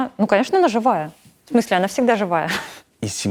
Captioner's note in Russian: прыскает